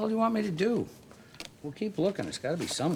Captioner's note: Joe speaking Spanish